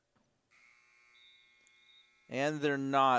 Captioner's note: buzzing